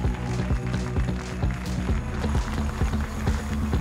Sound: jubilation and applause

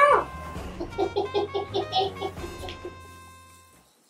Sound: laughing

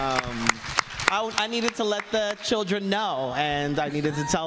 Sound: applause

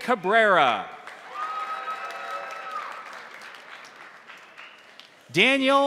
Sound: crowd applauding; crowd cheering

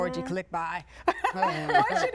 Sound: laughing

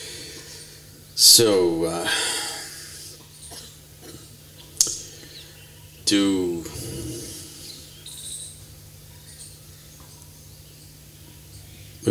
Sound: laughs

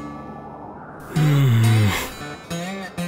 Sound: groan

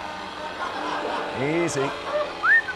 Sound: crowd laughs

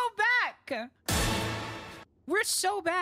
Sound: Tony Hawk Stunt FX

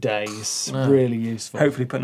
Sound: scoffs

